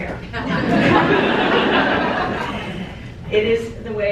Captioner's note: crowd laughing